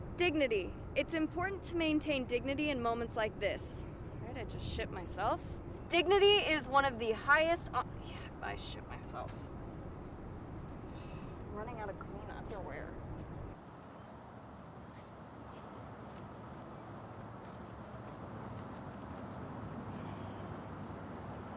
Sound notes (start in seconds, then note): 15.4 faint traffic noise